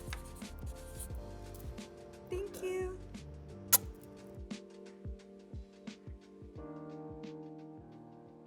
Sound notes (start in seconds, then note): 3.3 lips smacking; 5.1 gentle music